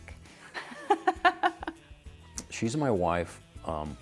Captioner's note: laughs